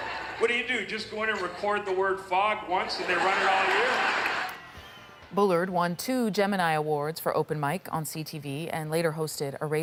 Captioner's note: laughter